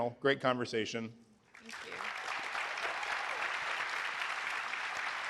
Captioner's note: applause